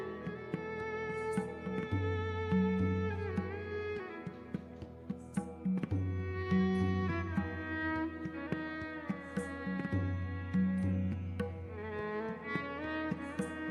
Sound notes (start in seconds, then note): none